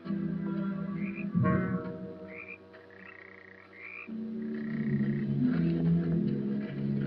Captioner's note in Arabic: خطوات